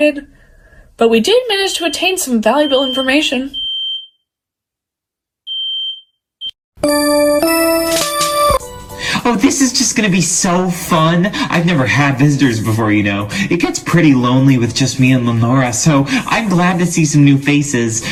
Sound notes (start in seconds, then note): 4.0 smoke alarm beeping; 5.5 beeping continues; 6.8 lively music plays